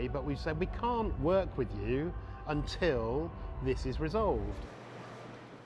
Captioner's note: none